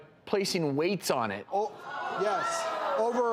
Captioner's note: audience gasps